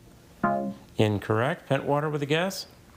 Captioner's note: text buzzing